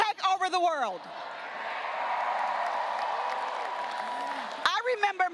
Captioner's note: graduates cheering and applauding